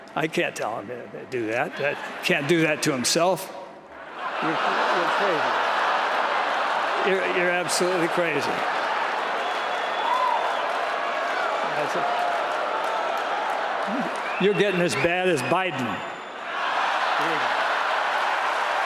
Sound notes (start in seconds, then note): 4.8 applause; 12.7 laughter; 16.8 applause